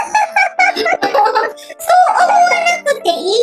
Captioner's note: laughs